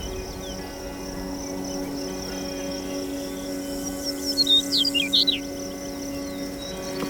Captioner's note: bird sounds